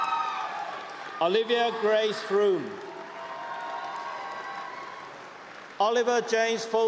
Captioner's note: cheering and applause